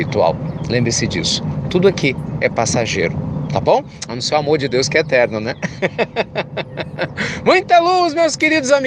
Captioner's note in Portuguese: Risos